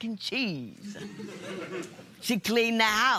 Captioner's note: laughter